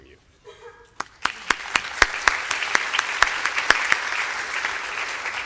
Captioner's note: applause